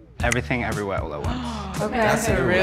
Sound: woman gasp

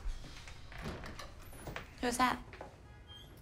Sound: door closing; door opening

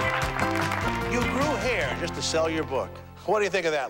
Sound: applause

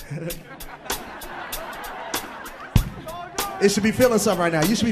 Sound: all laughing

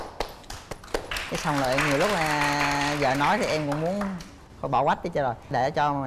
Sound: applause

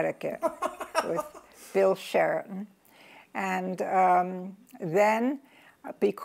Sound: laughs

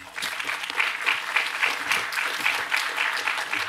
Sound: applause

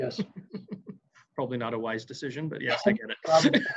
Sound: laughs

